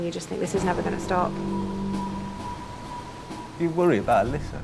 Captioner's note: intense music; water whooshing